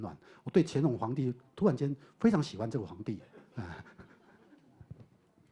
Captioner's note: audience laughter